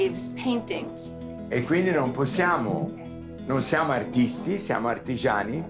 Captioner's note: Dario speaking Italian